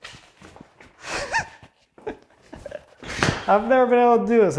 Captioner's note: man giggles